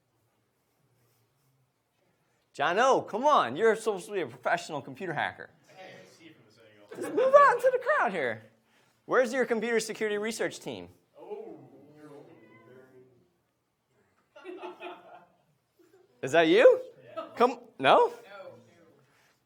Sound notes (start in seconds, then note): 6.2 speaking away from mic; 11.4 speaking away from mic